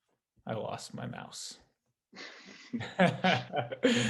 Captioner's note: laughing